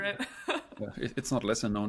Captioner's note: laughs